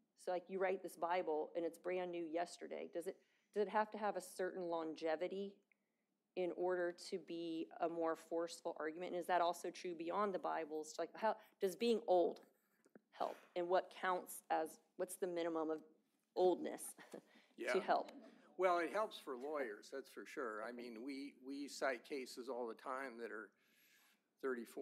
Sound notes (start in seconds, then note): 18.0 laughter